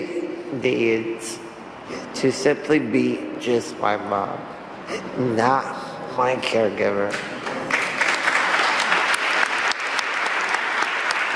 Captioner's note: applause